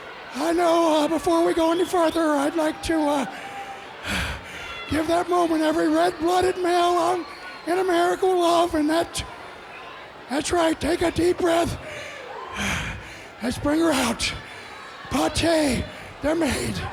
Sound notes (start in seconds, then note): 11.7 breathing deeply